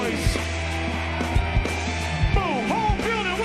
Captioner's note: loud cheering